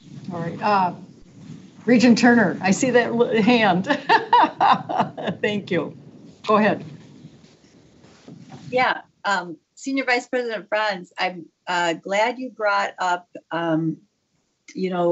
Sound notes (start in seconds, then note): 2.6 laughs